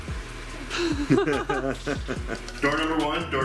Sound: laughs

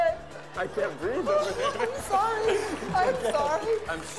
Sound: laughing

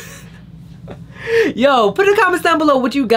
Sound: laughs; inhales

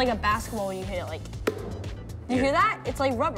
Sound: knocks

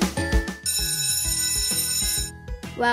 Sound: bell rings

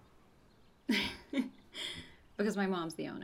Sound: laughs

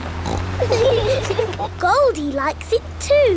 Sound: laughing

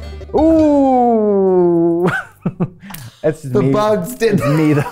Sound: laughs

